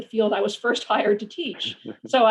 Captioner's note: chuckles